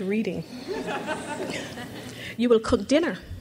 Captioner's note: crowd laughs